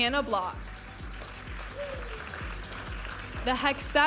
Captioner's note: audience applauding and cheering